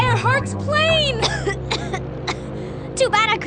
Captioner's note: coughs